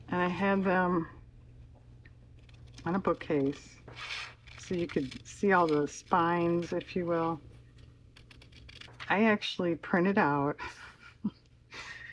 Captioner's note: laughs